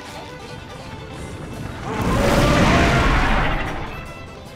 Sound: roaring

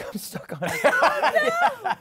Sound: laughter

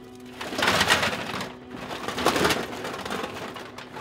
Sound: oyster shells clatter

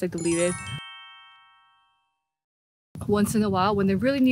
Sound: muting wind

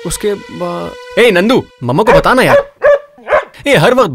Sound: dog barks

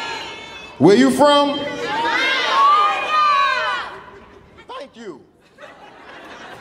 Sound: audience shouting; audience laughing

